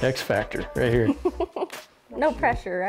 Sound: laughing

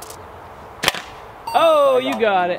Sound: slingshot fires; coin sound effect

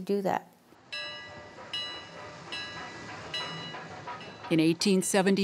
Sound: train bells

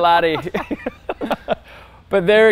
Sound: both laughing

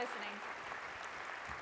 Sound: audience applauds

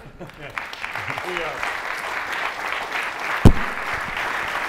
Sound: audience applauds

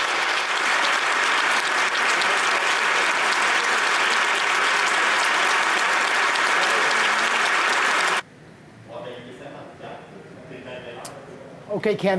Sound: applause

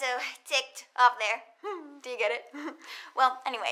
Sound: chuckles

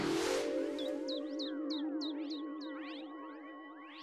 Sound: chirping

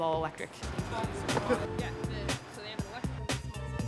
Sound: chatter

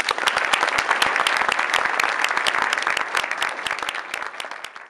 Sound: applause

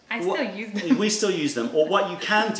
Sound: laughter

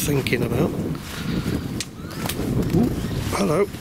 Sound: equipment buzzes

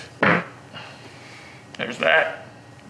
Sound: farts

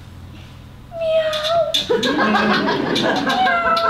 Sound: female roar; tweet, tweet noises

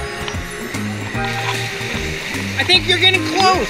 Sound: water splashing

